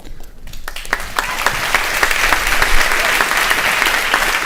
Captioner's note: audience applauding